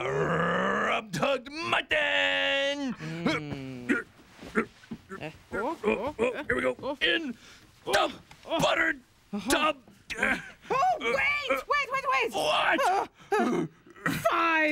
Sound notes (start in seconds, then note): 5.0 grunting